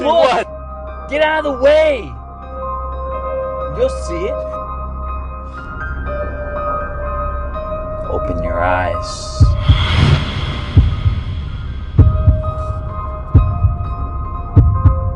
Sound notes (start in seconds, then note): 6.4 eerie music; 10.5 heartbeat thumping; 12.4 eerie music